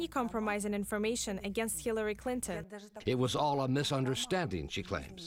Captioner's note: speaking a foreign language